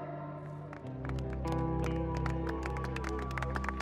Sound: applause, cheering

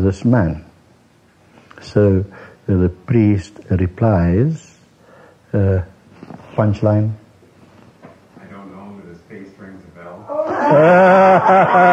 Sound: voice from audience

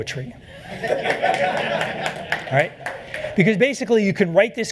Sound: laughter

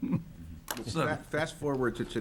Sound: laughs

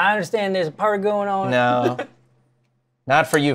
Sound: laughs

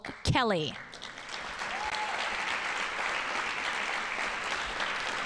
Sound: audience applauding

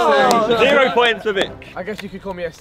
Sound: men oohing

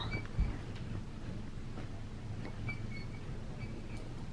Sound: bed squeaking

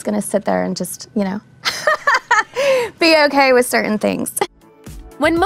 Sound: laughing

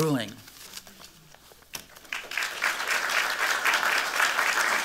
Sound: applause

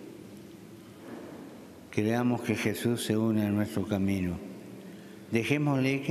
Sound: speaking Alternate Language

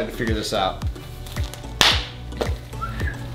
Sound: glove snaps; whistling

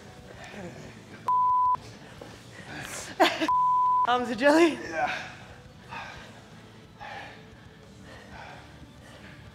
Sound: laugh

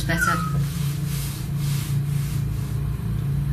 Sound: whistling

